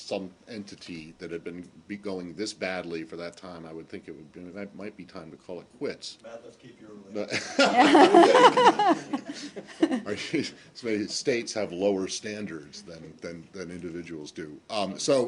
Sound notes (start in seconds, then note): 10.2 laughter